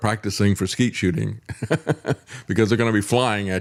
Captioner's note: laughs